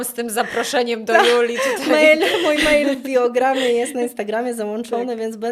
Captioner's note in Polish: śmiech